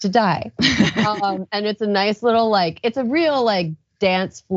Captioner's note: laugh